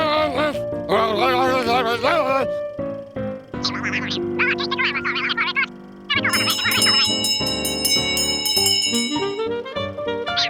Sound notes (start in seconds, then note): 0.9 angry yelling; 6.3 bell ringing; 8.4 vaudeville music